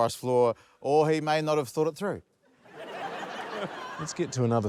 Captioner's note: laughter